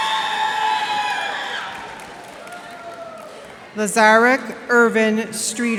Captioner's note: cheers and applause